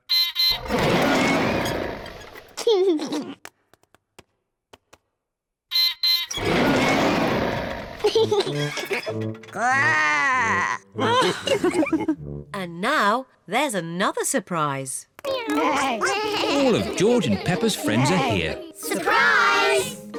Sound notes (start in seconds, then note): 0.1 beeps and roars; 2.4 laughs; 5.6 beeps and roars; 8.0 laughs; 9.5 growls; 11.0 all laugh; 15.3 all making animal sounds